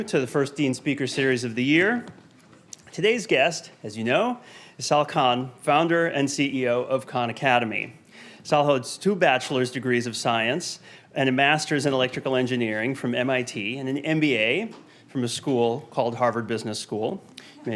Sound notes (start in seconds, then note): none